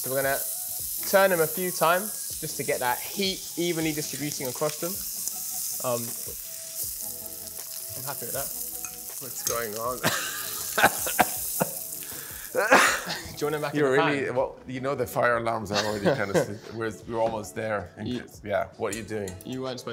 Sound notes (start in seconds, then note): 12.4 coughs